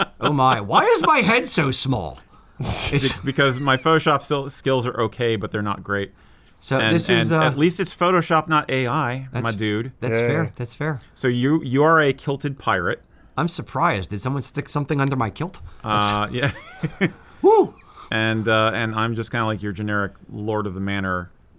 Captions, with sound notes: Oh, my. Why is my head so small? It's because my Photoshop skills are okay, but they're not great. So this is... At least it's Photoshop and not AI. That's fair. So you are a kilted pirate. I'm surprised. Did someone stick something under my kilt? (laughter) And I'm just kind of like your generic lord of the manor.